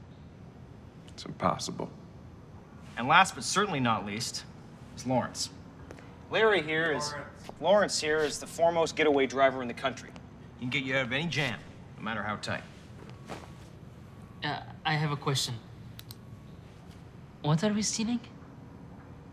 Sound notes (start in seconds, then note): none